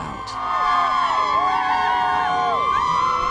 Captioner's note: crowd cheering